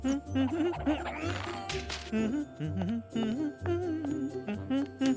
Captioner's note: humming